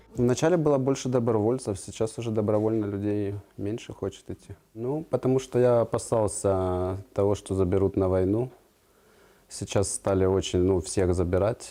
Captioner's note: speaking alternate language